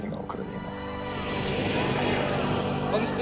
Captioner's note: crowd cheering